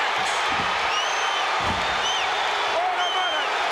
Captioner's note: audience cheering